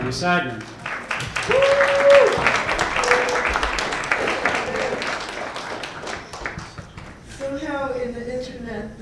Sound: applause

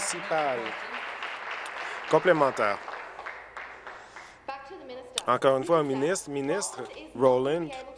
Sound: applause

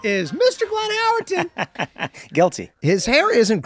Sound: Glenn laughs

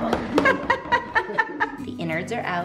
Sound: everyone laughs

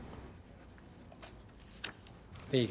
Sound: sound of sketching

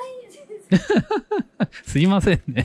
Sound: laughs

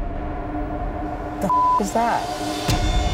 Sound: beep

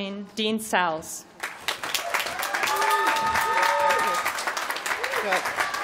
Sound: applause

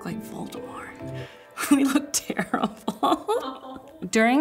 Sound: chuckles

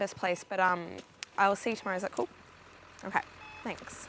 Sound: monitor beeping

